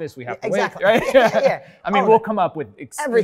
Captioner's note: laughing